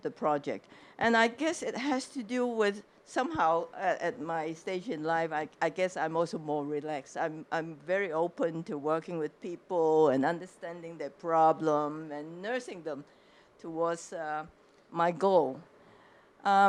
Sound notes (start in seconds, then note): none